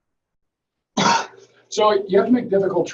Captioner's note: coughing